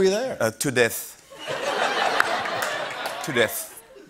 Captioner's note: laughter